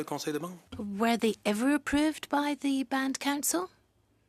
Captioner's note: speaking in French